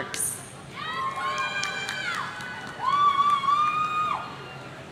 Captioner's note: audience cheering